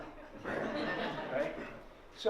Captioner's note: laughter